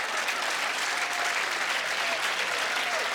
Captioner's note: applauding